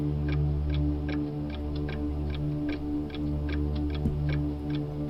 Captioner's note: clock ticking continues